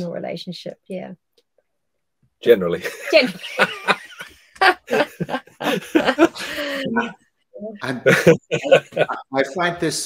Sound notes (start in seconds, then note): 4.5 laughter